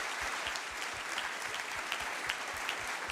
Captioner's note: applause